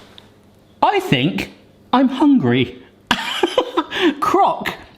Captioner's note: laughs